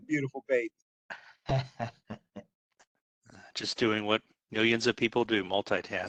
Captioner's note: laugh